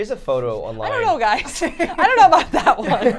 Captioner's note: laughs